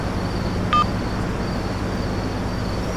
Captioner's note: Cell phone beeps